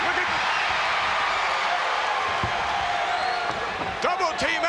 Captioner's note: audience cheering